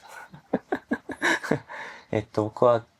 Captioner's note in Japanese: 笑い